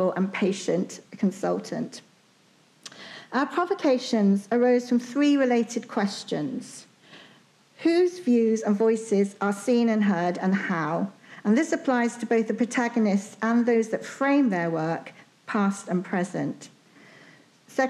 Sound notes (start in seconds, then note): none